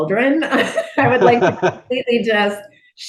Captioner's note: laughing